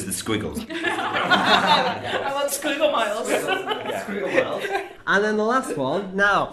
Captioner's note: laughter